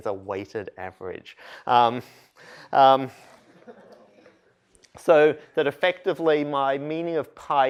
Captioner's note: laughter